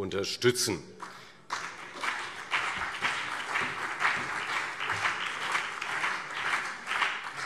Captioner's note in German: Beifall CDU und BÜNDNIS 90/DIE GRÜNEN